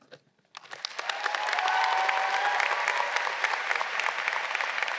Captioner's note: audience cheering